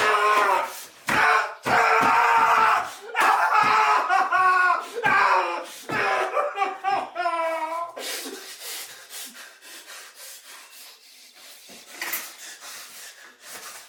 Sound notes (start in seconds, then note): 1.1 Phil screams; 5.9 Phil cries